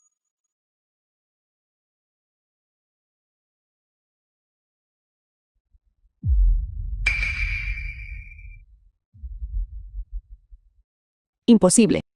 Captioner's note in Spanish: campana